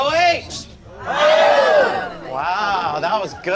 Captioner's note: crowd cheers